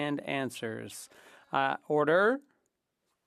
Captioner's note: speaking French